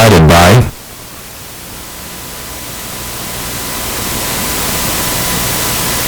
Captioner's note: high-pitched audio static